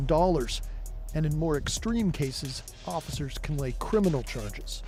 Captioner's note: none